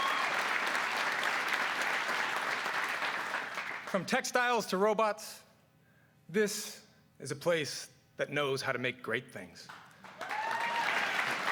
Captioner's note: cheers and applause